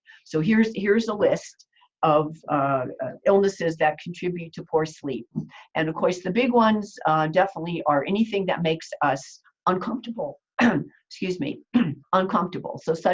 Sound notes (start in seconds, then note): 11.8 clearing throat